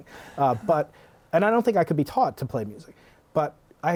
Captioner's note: laughter